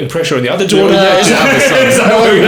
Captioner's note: laughing